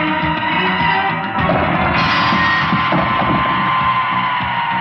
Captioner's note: banging; tense music